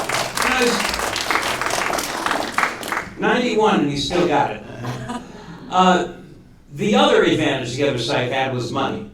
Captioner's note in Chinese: 鼓掌